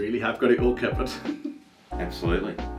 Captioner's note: chuckles